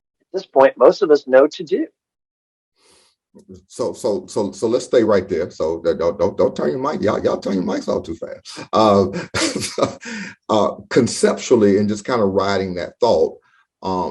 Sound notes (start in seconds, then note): 10.2 laughs